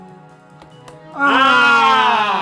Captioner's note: click